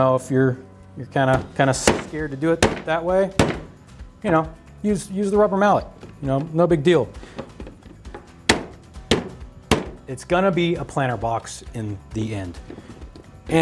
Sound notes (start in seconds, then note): 8.4 cap bangs